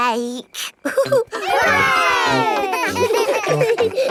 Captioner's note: chuckles; laughing